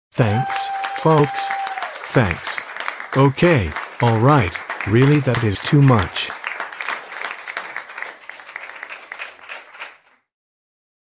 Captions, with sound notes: [applause] Thanks folks. Thanks. Okay. [applause] Alright. Really, that is too much.